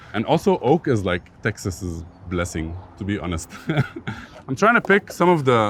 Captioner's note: laughs